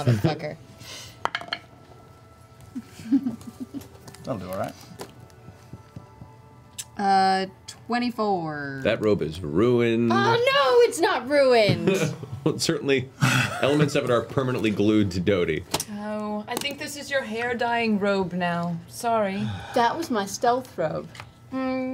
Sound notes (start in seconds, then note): 9.1 singsong; 13.2 laughs